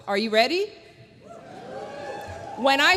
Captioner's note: cheers